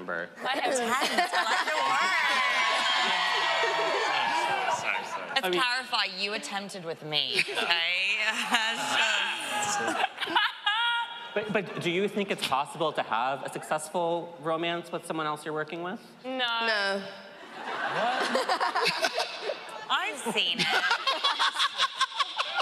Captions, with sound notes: Attempt, I like your word. [audience cheering] Let's clarify. You attempted with me, okay? [audience exclaiming] [laughing] But do you think it's possible to have a successful romance with someone else -you're working with? -No. [laughing] I've seen it. [laughing]